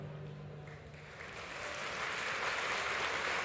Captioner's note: applause